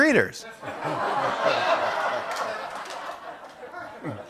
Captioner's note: laughter